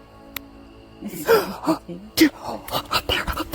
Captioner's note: gasping